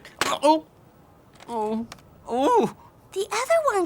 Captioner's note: Willy groaning